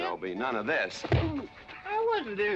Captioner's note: thump